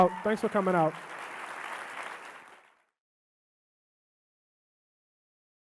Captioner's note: audience clapping